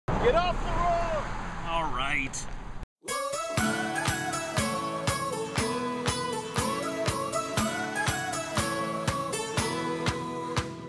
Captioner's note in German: Fahrzeug fährt vorbei